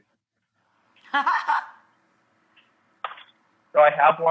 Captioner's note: Rachael laughs